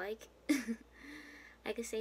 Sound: smol laugh

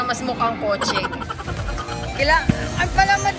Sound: laughs

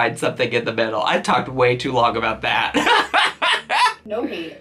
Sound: laughs

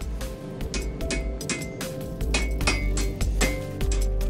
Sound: hammer clanking

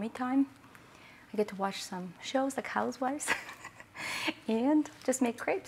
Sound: laughs

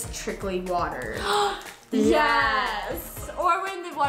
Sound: gasps

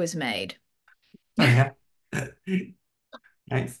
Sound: both laugh

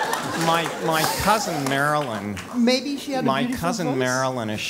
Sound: laugh

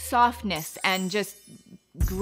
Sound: chimes ringing

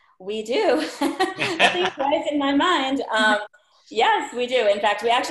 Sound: laughs

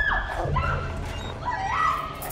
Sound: shouts

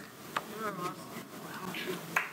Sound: audience murmurs

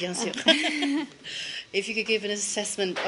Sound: laughter

